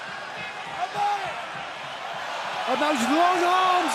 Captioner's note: crowd cheering